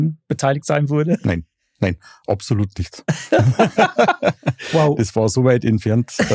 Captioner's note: alle lachen